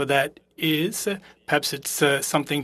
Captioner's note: speaking French